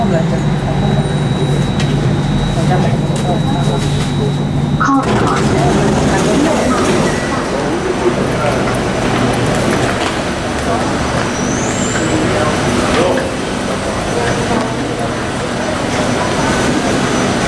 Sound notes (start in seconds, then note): 7.6 walking sounds; 11.0 train screeches